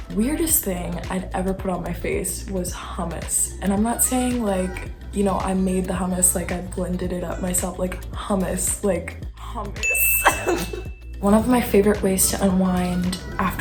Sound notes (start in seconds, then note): 9.6 laughs; 9.8 chime